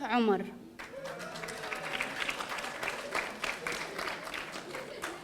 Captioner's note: audience applauding